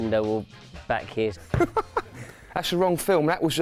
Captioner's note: laughs